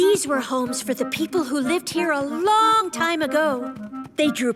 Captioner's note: none